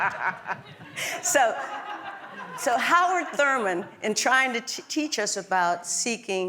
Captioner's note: laugh